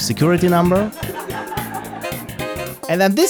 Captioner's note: laughter